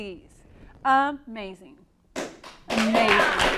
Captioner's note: applause